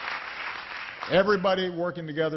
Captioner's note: applause